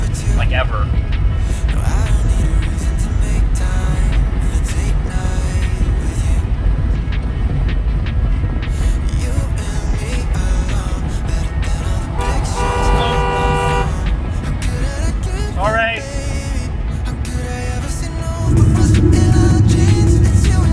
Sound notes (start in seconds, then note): 12.0 truck horn blares as it races